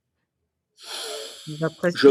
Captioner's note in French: soupir